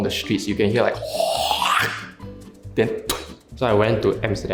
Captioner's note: spitting sounds